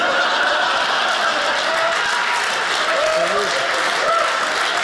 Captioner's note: audience laughing; audience applauding